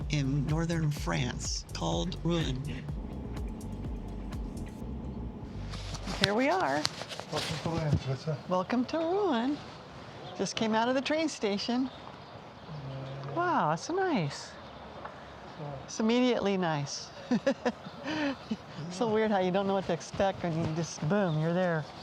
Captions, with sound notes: in Northern France called Rouen. Here we are. Welcome to Rouen. Just came out of the train station. Wow, that's nice. It's immediately nice. (laughs) So weird how you don't know what to expect and you just, boom, you're there.